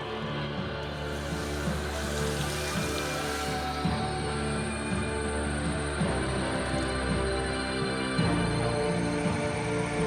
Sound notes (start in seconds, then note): 1.0 water sloshing; 4.1 cicadas